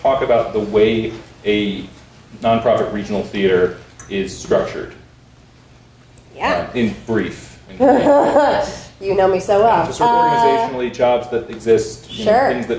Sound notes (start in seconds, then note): 7.8 laughs